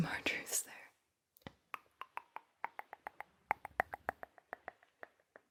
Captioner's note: mouth sounds